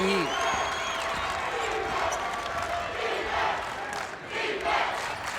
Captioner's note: crowd chanting